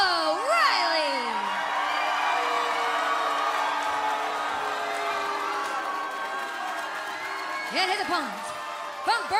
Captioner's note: crowd cheering